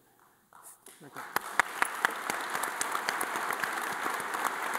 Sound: audience applauding

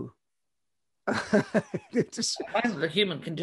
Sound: laughs

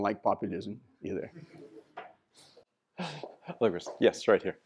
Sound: laughter

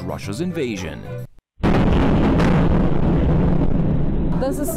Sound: bomb explodes

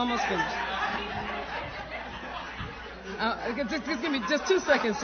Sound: laughter

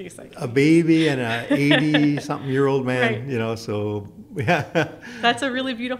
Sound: laughs

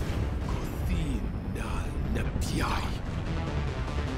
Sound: speaking Thayan

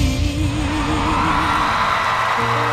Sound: cheers and applause

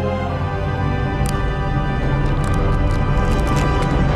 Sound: cracking

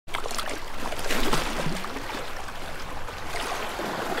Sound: splashing water

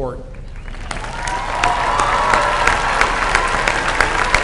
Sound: applause

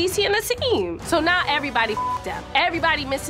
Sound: beep

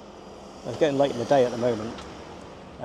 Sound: car engine whirring

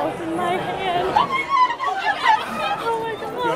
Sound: screams

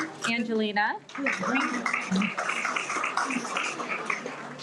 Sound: everyone applauds

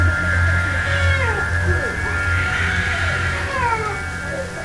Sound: baby crying

